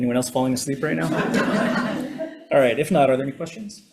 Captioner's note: attendees laughing